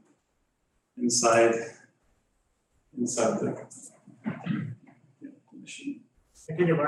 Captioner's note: throat clearing